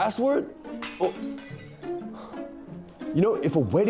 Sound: glass breaks

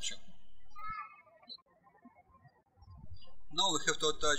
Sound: birds chirping

